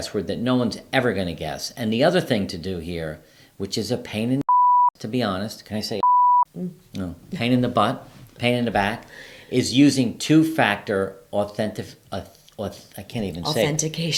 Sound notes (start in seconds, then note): 6.0 beeping